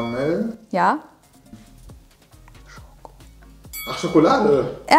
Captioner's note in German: flüstert